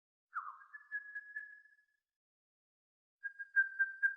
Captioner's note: bird singing